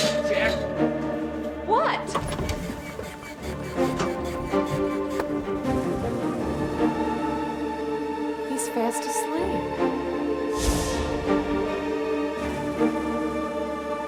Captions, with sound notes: - Jack. - What? (suspenseful music) (rocking horse squeaking) He's fast asleep. (suspenseful music continues)